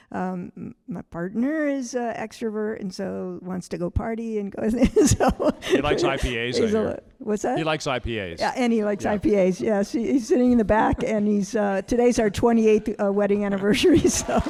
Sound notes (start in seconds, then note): 4.8 all laughing; 14.0 audience applauding